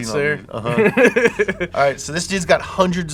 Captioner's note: laughs